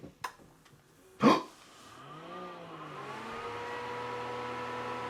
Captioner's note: gasps